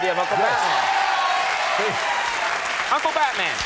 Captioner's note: crowd applause